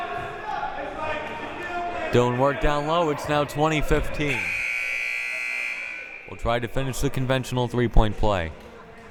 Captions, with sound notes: Doing work down low, it's now 20-15. (buzzer) We'll try to finish the conventional three point play.